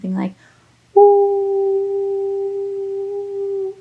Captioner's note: long tone